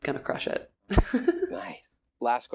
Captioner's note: laughing